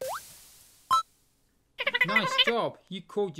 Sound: tuna collecting sound

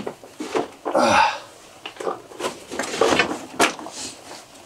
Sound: groans

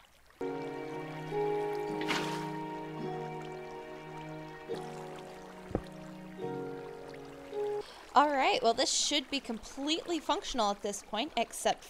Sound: places water

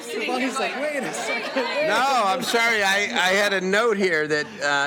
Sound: laughter

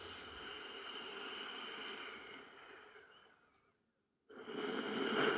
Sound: man heavily breathing

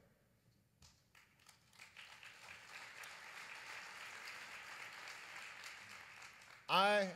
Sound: applause

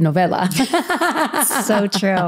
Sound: laughs

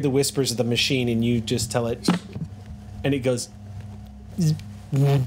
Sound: buzzes

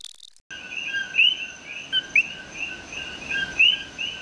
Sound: animals chirping

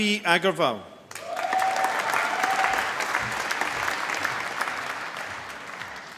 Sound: applause

